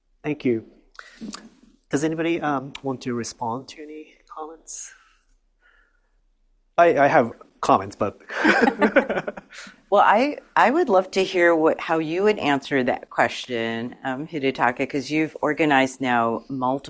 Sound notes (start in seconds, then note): 8.3 laughs